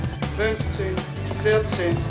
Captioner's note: beeping